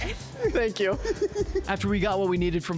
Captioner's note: laughter